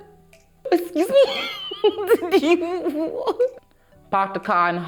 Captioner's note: laughs